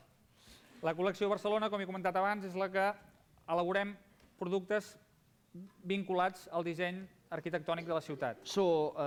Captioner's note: non-english speech